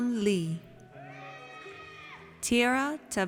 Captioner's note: audience cheers